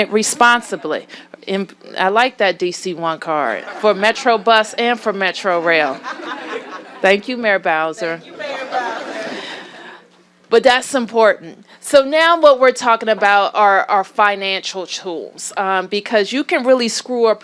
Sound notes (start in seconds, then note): 8.3 laughter